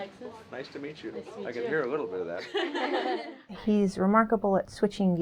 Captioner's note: laughter